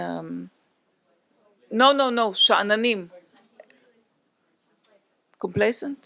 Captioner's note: non-english speech